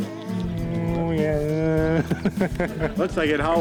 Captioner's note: laughing